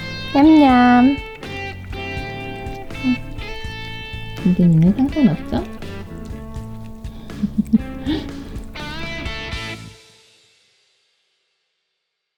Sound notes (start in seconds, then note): 7.2 laugh